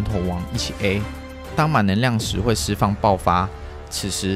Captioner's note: burst